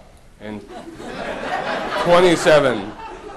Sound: audience laughter

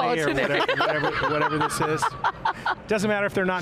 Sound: laughs

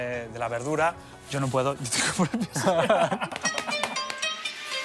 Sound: laugh

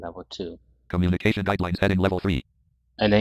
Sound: screen reader voice

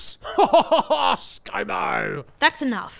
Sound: laughing

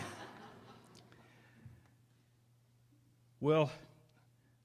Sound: laughter

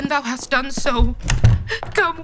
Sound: door shutting

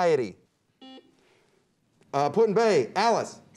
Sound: buzzer beeps

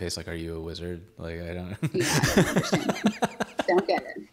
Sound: laughs

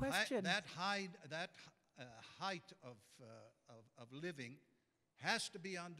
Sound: voiceover

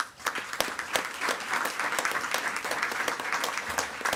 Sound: attendees clapping

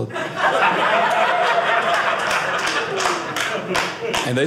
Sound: audience laughing

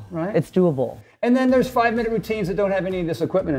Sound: none

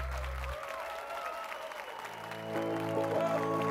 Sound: applause and cheers

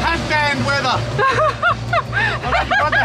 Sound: laughs

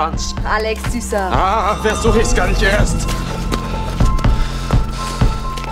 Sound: heavily exhales

